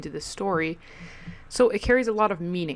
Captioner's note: mic breath again